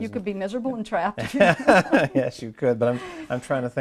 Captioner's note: both chuckles